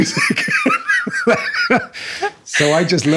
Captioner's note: laughing